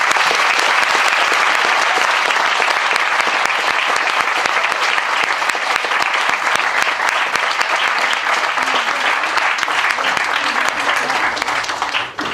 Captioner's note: applause